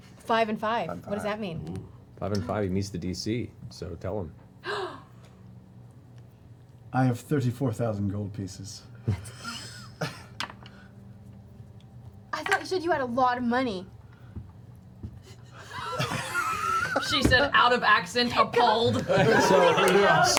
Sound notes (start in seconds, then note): 13.7 laughter